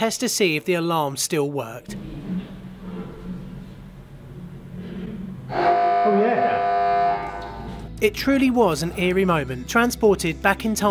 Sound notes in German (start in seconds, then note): 5.5 Alarm ertönt